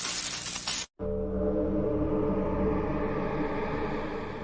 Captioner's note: eerie Sound